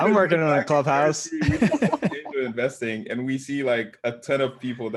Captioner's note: laugh